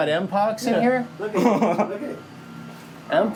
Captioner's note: laughs